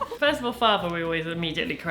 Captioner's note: both laughing